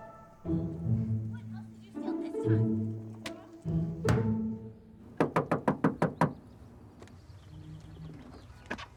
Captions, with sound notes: what else did you steal this time? [knocks]